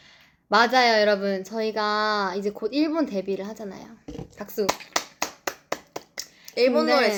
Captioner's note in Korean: 박수